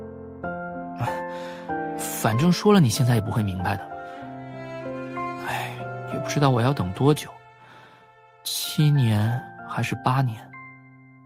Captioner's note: sigh